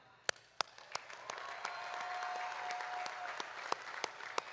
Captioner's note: audience applauding